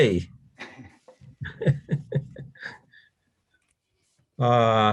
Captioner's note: laughs